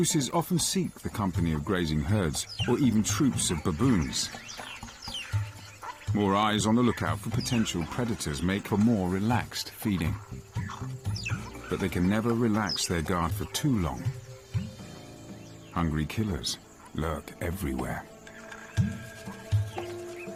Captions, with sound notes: More eyes on the lookout for potential predators make them more relaxed feeding, but they can never relax their guard for too long, hungry killers lurk everywhere. (dramatic music) (birds chirping)